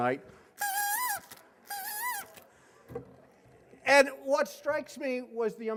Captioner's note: horn sounding